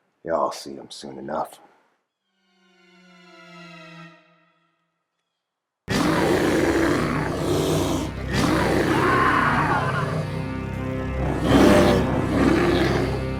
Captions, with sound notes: Y'all see him soon enough. (dramatic music) (growling)